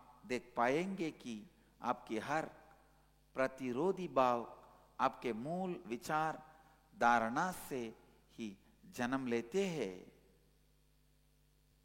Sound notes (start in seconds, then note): 7.4 hindi